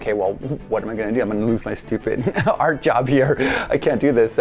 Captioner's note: laughs